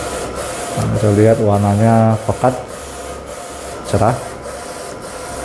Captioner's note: printer machine noise